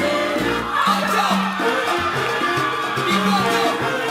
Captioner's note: audience cheering